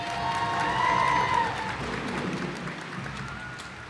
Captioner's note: cheers and applause